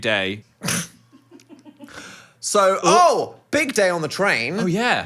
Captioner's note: scoffs